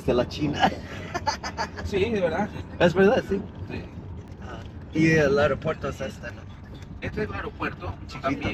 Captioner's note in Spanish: risas